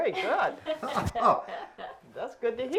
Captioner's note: laughs